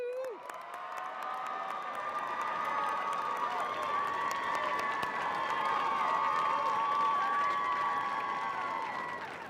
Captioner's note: cheers and applause